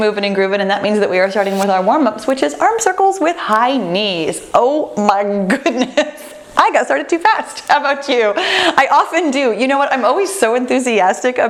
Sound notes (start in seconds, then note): 5.8 laughs